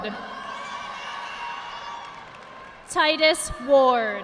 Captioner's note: audience applauding